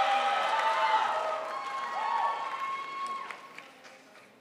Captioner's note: crowd applauds